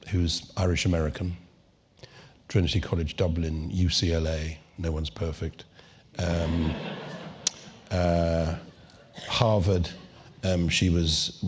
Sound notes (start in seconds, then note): 6.4 laugh